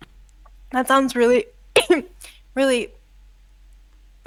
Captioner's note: cough